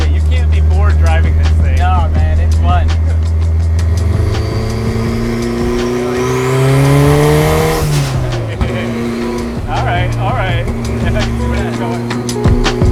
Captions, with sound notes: You can't be bored driving this thing. - No, man. It's fun. (engine revving) All right.